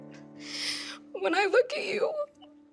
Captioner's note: crying